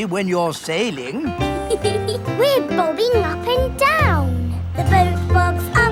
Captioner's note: giggles